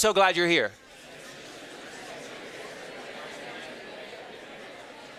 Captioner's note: students chattering